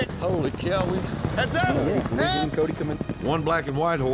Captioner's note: hoofbeats